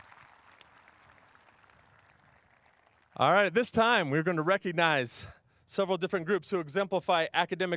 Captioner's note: cheers and applause